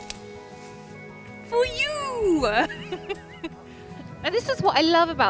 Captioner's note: laughing